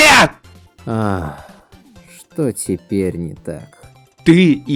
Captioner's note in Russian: выдыхает